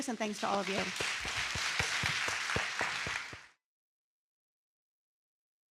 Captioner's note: attendees clapping